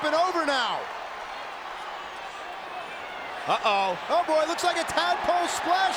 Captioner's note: applause